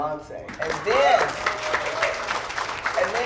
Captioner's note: applause